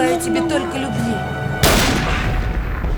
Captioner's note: gunshot